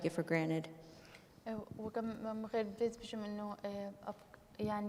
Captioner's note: speaking kurdish